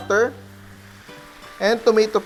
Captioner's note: sizzle